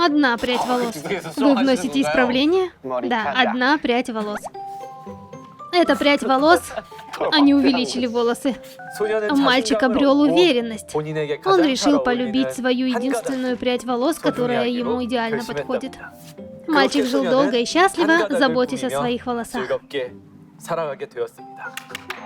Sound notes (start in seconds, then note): 4.0 laughing